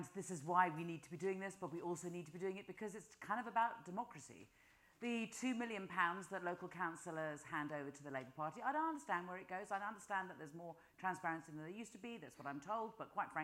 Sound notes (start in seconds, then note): none